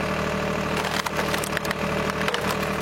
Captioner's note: crackling, crackling